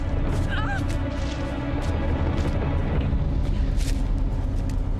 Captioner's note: Jill cries out